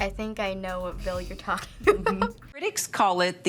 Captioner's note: laughs